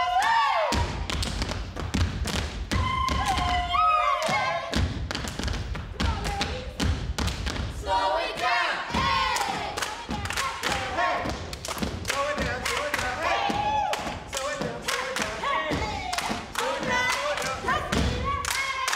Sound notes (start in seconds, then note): 2.7 group cheers; 3.2 woman yodels; 7.3 feet taps